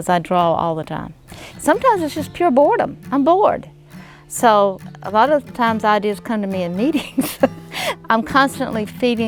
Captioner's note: laughs